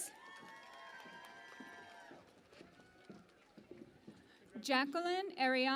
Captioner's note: cheering and Applause